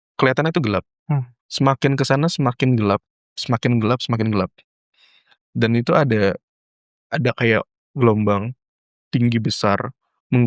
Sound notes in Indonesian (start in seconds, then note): none